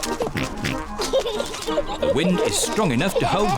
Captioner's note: giggles